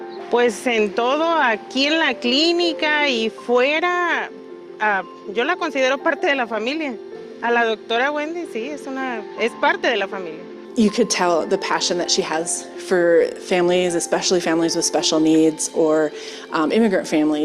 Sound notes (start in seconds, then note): 1.3 speaking spanish